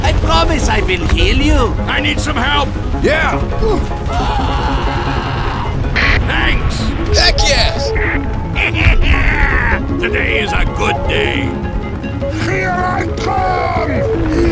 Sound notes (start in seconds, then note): 4.1 The Bf 109 F screams; 8.5 The F4U-4B laughs; 14.2 The I-185 screams